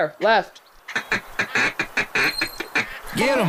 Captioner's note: blowing call